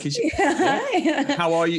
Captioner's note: laughs